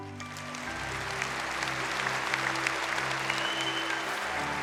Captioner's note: audience clapping